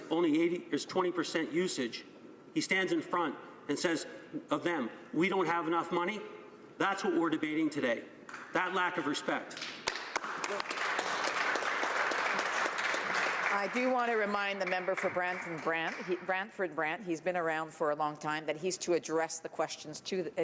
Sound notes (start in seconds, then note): 14.9 some applause